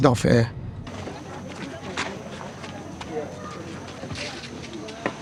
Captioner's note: people chattering